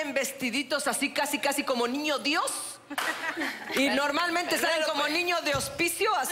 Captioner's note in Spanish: Risas